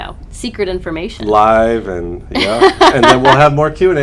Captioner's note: laughter